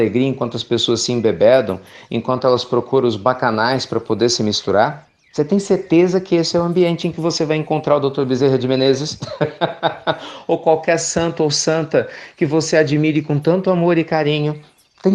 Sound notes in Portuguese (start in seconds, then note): 9.0 risos